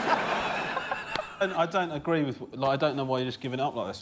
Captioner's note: laughter